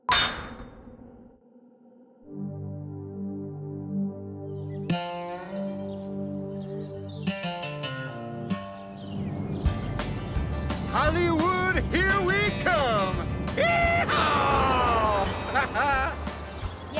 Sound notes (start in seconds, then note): 0.1 gate clangs; 2.2 dark music; 5.0 birds chirp; 9.8 upbeat music; 15.6 Billy Ray laughs